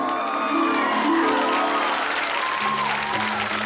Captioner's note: audience applause